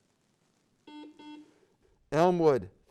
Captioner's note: beep